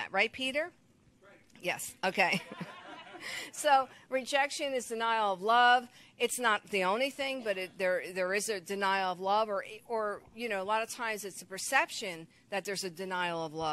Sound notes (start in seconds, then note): 2.4 crowd laughing